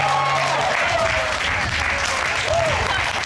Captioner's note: audience cheering